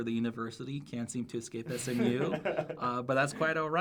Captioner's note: laughs